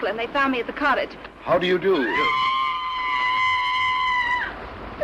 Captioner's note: screams